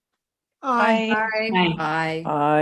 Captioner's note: multiple ayes